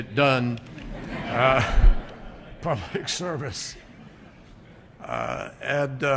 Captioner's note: laughter